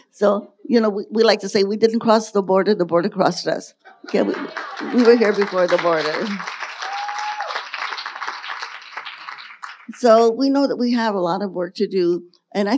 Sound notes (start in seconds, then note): 6.6 audience applauding and cheering